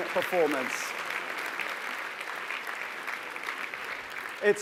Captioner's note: applause